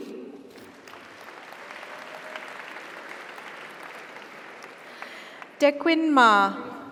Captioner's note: audience applauds; audience cheers